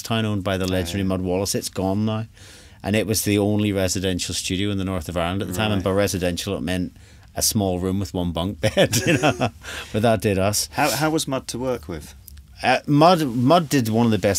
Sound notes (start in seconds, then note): 8.6 both Laugh